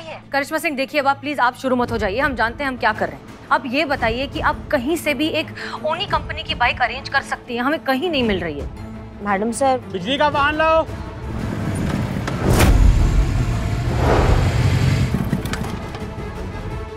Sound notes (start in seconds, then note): 13.3 bike revving